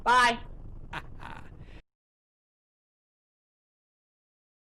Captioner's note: laughs